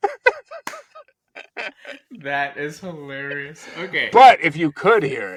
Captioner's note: laughing